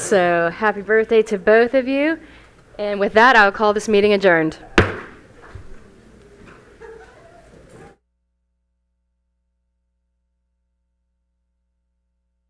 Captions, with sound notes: So, happy birthday to both of you. And with that, I'll call this meeting adjourned. [Gavel hitting dais] [Group chatter]